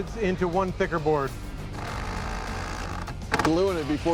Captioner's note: drill whirring